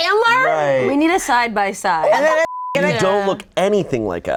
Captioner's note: beep